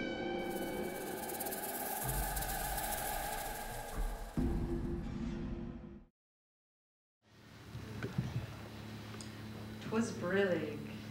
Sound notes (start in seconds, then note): none